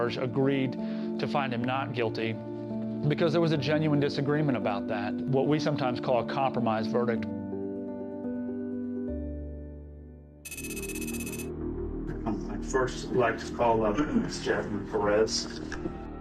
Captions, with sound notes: agreed to find him not guilty, because there was a genuine disagreement about that; what we sometimes call a compromise verdict. [bright music] [tense music] [text clicking] I'd first like to call up Ms. Jasmine Perez.